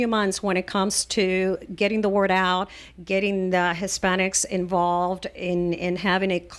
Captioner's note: Hablando ingl\s